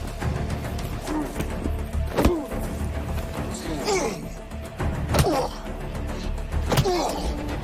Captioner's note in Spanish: Golpes y exclamaciones